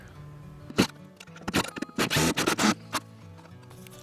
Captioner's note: drilling